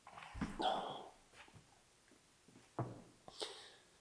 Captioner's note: Jacob groans